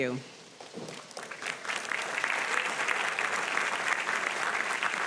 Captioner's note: audience applauding